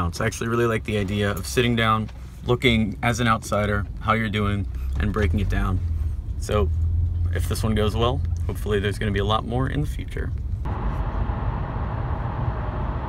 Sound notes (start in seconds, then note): 10.4 cars driving